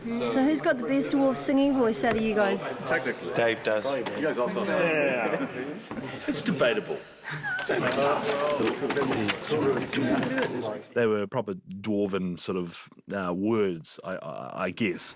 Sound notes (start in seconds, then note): 8.0 reading in dwarven